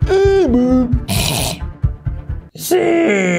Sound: baby growling

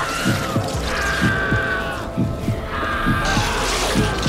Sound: man screams

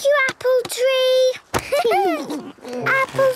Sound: laughter

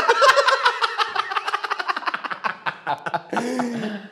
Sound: cackling Laughter

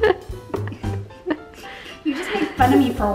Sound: laughing

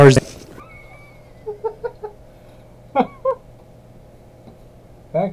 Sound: laughs

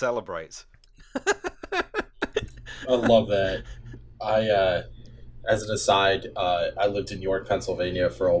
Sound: laughter

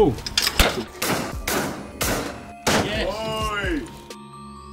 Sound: gunshots

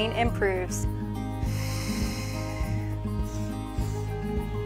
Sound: exhaling, sniffing

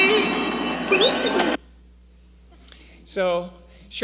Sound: R2 beeps

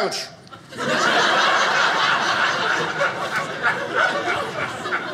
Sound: audience laughing

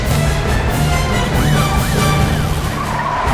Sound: sirens wailing

